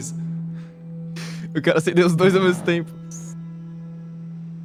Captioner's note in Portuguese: Risada